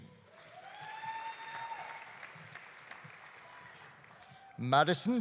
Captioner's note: audience applauding; audience cheering